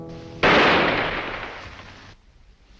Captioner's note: gunshot